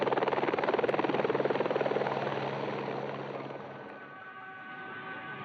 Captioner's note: sound of a helicopter; sound of Tibetan horns